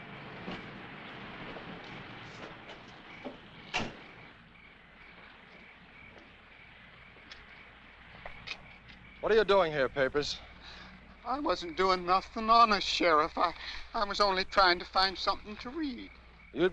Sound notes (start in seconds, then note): 3.6 car door thuds